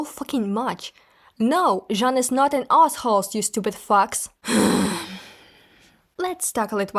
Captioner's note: deep sigh